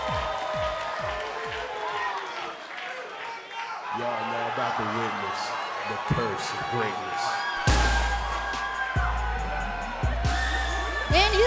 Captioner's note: cheers and applause